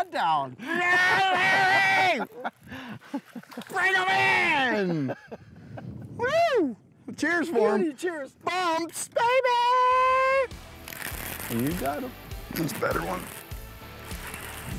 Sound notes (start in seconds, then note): 0.0 all shouting and laughing; 0.6 laughs; 9.6 shouts